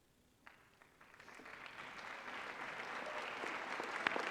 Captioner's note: applause